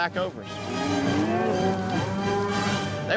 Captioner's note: mooing